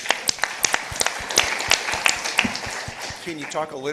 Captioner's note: participants applauding